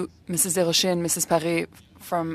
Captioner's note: speaking French